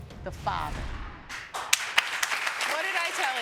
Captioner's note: audience clapping